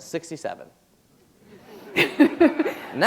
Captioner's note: laughter